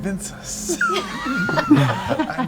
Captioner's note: laughter